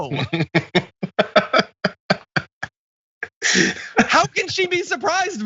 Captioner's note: laugh